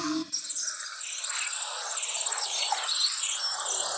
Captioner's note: birds chirping